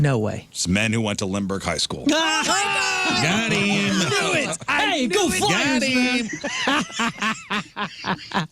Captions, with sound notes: No way. It's men who went to Limburg High School. (Screaming) Got him. Do it. Hey, go fly, team. (Laughter)